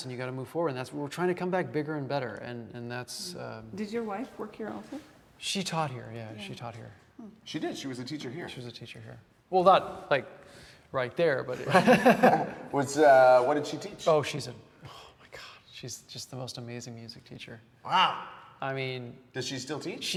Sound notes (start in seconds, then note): 11.6 laughs